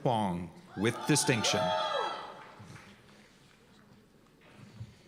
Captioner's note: cheers and applause